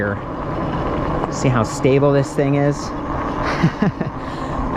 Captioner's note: chuckling